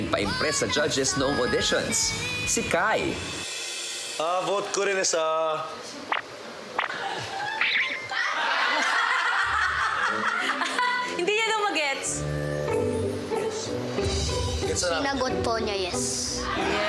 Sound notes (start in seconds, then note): 7.4 silly sfx; 8.0 laughter; 13.6 whispers